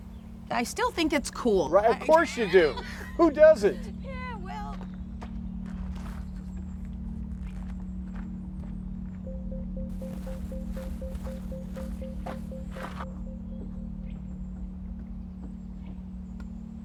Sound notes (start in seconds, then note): 7.3 crunching footsteps; 7.3 tense music; 13.9 birds singing